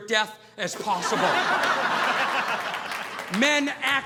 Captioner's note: audience laughing